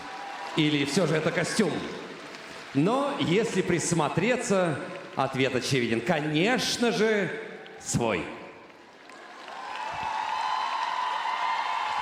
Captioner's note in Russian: ликование